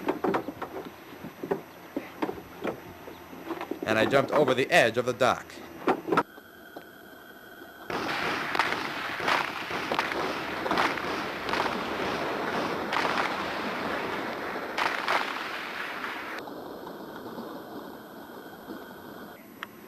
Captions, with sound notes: ...and I jumped over the edge of the dock. [ GUNFIRE ]